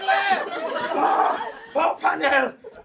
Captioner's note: laughing